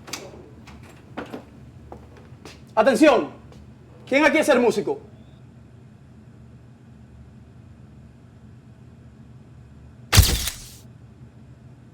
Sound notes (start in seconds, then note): 0.0 door Opening; 1.6 footsteps; 10.1 camera Clicking